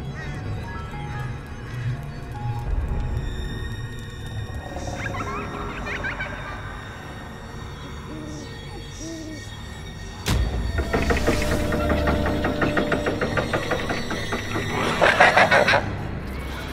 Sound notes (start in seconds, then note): 0.2 spooky music; 4.7 growls, little children laughing; 7.7 owl hoots; 10.7 locks turning, metal groaning; 14.6 evil laughter